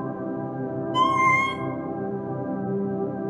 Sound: in high pitch

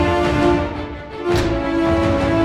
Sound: smack

